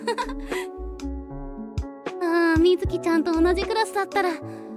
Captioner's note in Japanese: 笑い